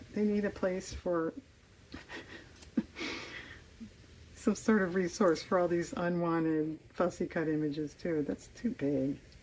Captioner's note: laughs